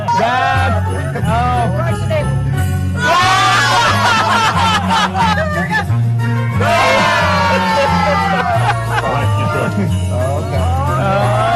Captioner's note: laughter; laughter